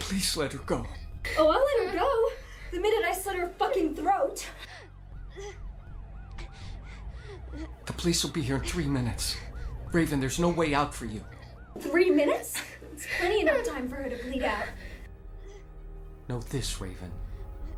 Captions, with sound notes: Please let her go. - Oh, I'll let her go... The minute I slit her fucking throat. (police sirens wailing) (Sharon whimpering) - The police will be here in three minutes. Raven, there's no way out for you. - Three minutes? It's plenty enough time for her to bleed out. - Know this, Raven...